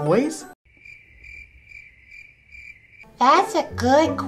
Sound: crickets chirping

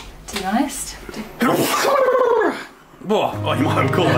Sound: does a big sneeze

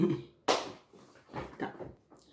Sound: giggle; clap

